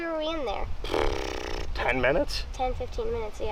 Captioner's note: blowing raspberry